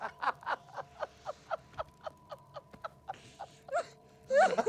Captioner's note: hysterical laughter